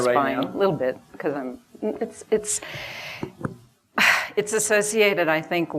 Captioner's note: sighs